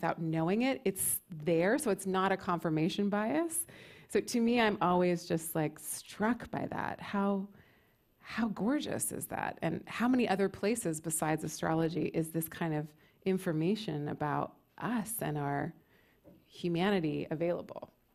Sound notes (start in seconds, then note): none